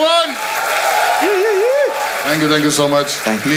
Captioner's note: crowd applauding